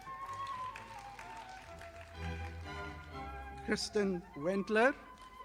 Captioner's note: audience applauding